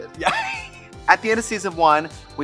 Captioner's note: laughs